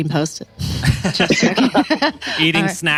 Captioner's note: laughs